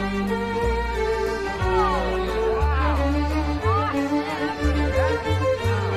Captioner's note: crowd 'ooh's and 'aah's